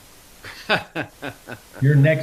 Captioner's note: laughs